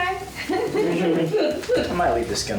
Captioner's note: laughing